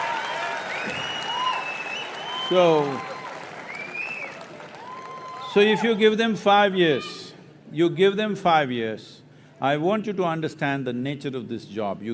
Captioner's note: applause